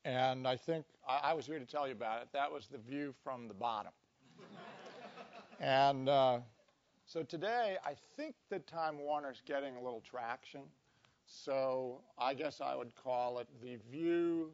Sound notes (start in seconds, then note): 4.4 laugh